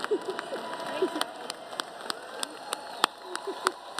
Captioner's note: applause